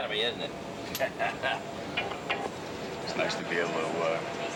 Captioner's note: laughs